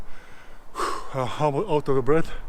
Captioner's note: sighs